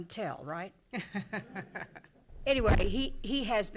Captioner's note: laughing